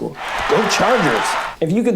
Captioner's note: crowd cheers